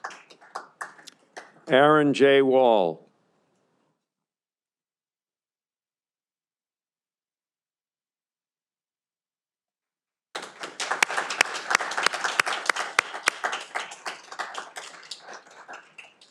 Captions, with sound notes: Aaron J. Wohl. (audience applauding)